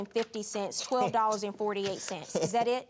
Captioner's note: laughs